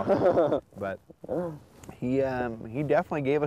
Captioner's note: laughter